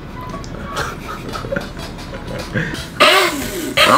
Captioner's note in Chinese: 傻笑